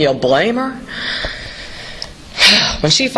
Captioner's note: sighs